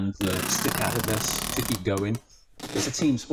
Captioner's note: tape zipping